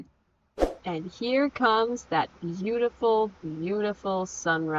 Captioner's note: whoosh sfx